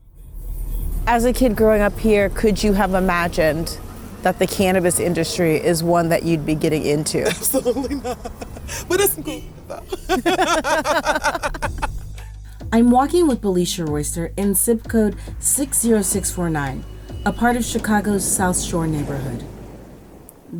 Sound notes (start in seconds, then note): 7.1 laughs; 10.3 laughter